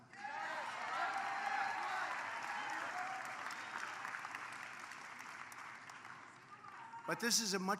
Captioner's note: applause